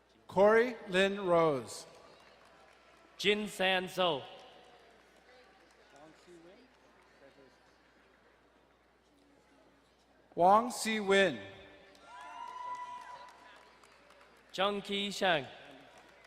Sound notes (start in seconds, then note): 11.9 crowd cheering and applauding